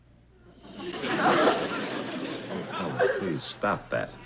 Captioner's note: Helen sobs